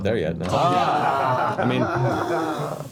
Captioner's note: groaning